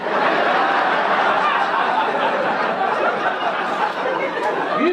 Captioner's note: audience laugh